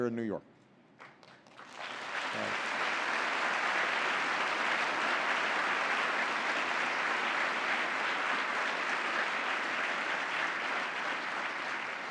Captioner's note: applause